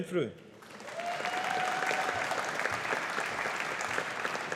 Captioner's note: audience applauding